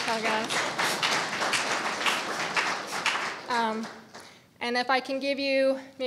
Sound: audience applauding

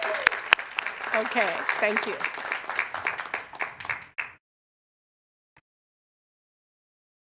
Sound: cheers and applause

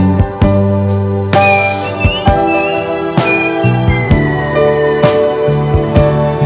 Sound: whistling

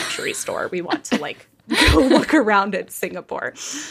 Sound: laughing

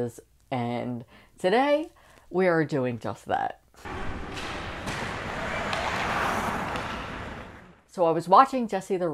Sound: skates clashing against ice

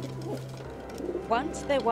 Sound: doves cooing

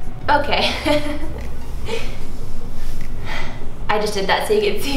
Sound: laughs

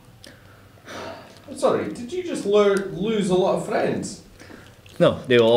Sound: sigh

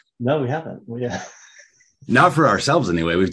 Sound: chuckles

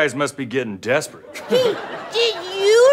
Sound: chuckles

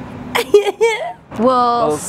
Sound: laughs

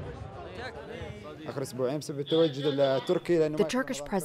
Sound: non-english speech

